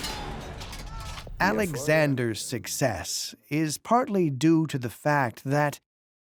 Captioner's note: in German